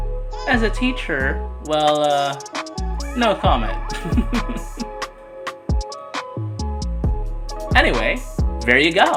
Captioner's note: chuckles